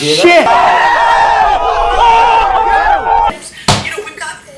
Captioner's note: riotous crowd